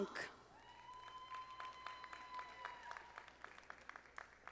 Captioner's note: audience applauding